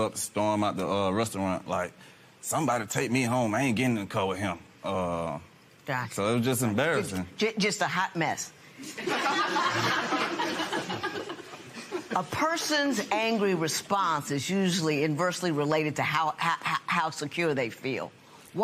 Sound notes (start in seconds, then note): 8.8 laughter